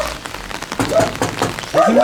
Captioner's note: knocking